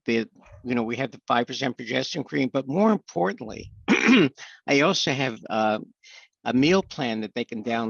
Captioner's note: clears throat